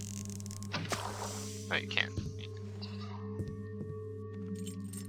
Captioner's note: sound of steam dissipating